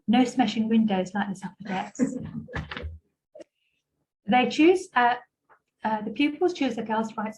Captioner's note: gentle laughter